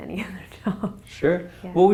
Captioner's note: laugh